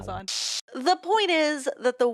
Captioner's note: static